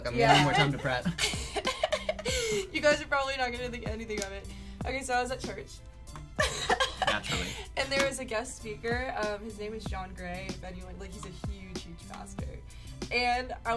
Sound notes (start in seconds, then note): 0.2 laughs; 6.6 laughs